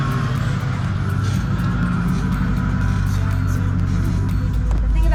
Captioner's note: car engine revving